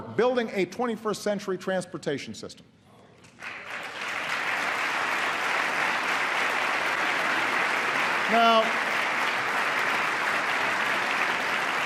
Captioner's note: applause